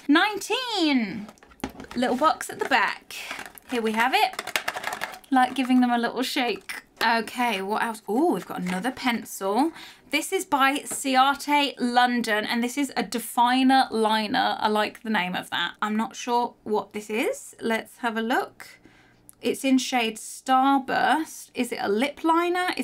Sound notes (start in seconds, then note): 4.7 box rattling